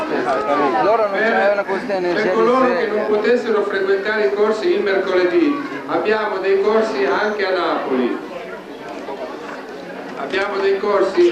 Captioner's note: italian